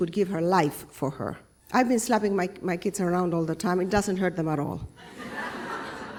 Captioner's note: laughter